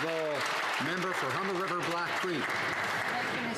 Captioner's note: some Applause